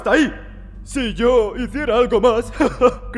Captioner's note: laughs nervously